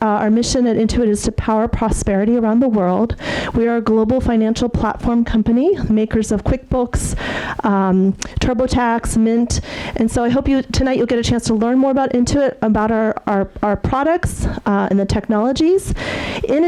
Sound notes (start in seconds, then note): none